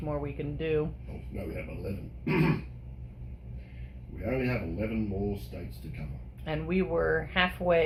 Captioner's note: clears throat